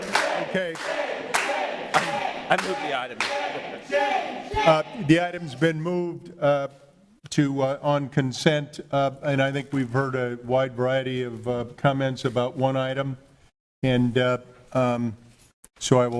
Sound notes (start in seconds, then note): 2.5 audience chanting